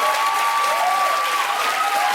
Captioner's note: cheers and applause